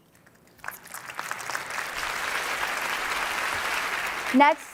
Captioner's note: applause